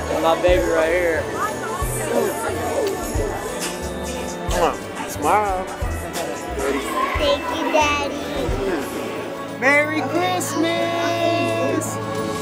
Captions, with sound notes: My baby right here. - (smooches) Smile. - Thank you, Daddy. - Merry Christmas!